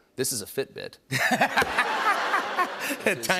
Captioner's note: laughter